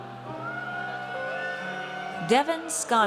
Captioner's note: audience cheers